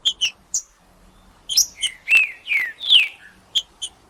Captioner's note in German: trinca ferro cantando